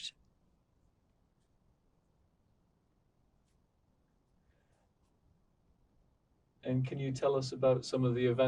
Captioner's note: pauses 6 seconds